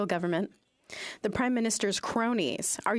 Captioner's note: speaking French